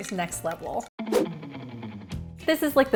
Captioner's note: air whooshing